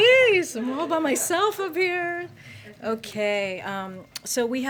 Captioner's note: laughter